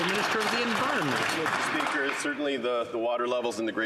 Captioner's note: some Applause